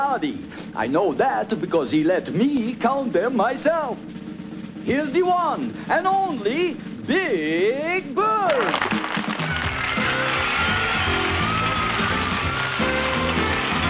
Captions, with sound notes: HE LET ME COUNT THEM MYSELF. [APPLAUSE]